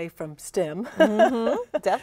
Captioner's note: laughing